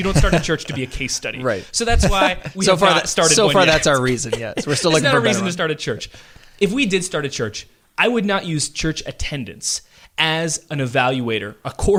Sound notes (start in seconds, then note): 0.0 laughs